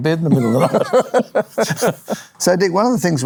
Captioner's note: laughing